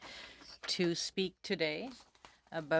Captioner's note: speaking french